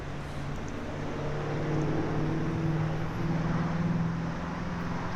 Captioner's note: cars whooshing